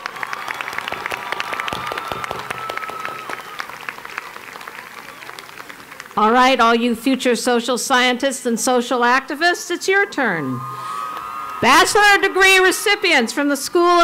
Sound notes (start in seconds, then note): 0.0 cheers and Applause; 10.3 cheers and applause